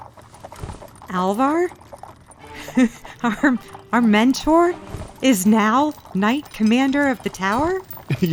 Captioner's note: pause then chuckle